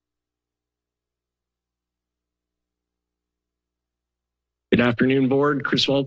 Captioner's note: silence